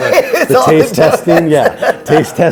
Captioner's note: laughing